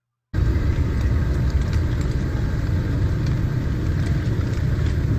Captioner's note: shrimp slapping wetly